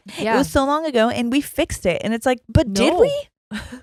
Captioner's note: chuckles